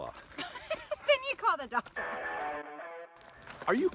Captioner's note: laughing